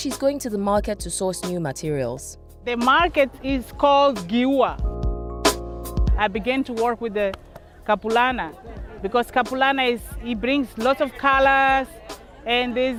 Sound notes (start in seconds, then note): 10.6 background chatter